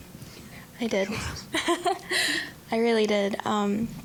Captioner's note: laughing